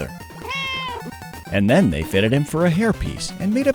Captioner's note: meow